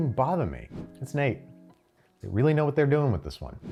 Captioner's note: air whooshes